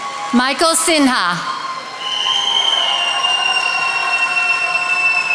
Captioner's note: attendees applauding